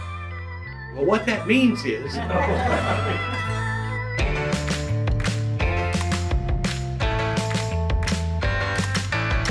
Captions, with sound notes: What that means is... [Audience laughing] [Upbeat music]